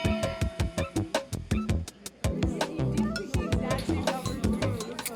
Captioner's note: bell rings; uplifting music; upbeat music